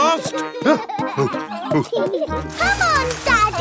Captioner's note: panting; peppa and george laughing